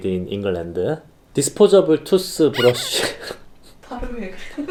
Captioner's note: legit Korean accent